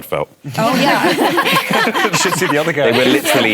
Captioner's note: laughter